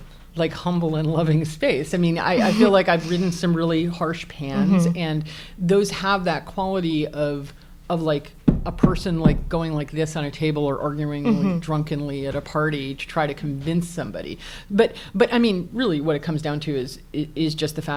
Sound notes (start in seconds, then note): 9.6 tapping table with hand